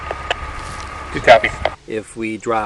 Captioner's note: man Over Radio